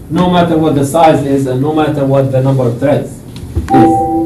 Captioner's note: sound of bell